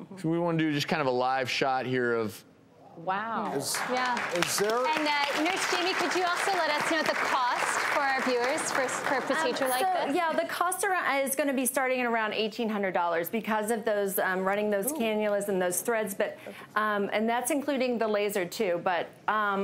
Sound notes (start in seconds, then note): 3.6 audience applause